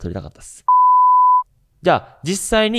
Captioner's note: beep